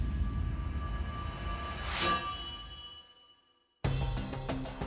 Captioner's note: sword tings